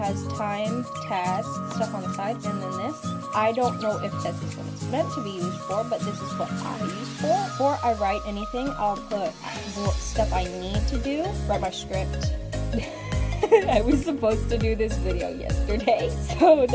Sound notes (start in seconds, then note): 12.7 laughs